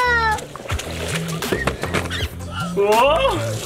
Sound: splashing

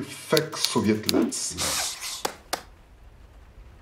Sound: ssh-ssh

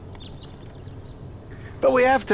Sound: birds tweeting

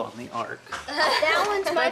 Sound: laughing

